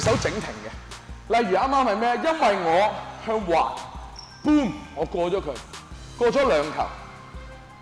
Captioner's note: boom